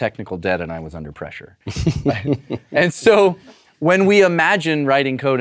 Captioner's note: laugh